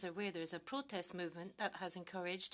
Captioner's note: speaking French